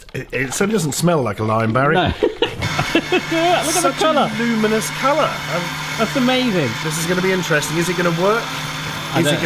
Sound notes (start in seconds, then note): 2.0 laughs